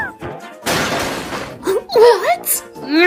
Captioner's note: both gasp